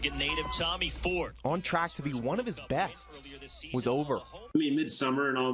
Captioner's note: start gate beeping